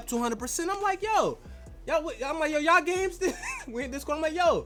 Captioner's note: laughs